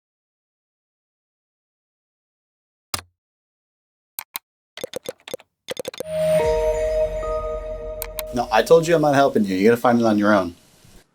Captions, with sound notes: (mouse clicks) (keyboard clacking) (bright music) - No, I told you I'm not helping you. You gotta find it on your own.